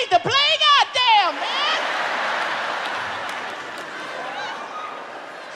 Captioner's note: audience laughs